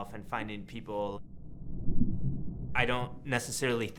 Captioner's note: water gurgling